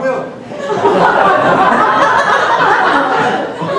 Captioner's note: laughing